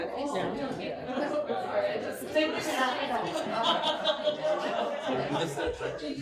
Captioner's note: laughter